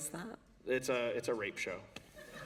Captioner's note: laughter